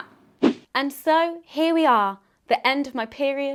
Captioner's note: transition swishes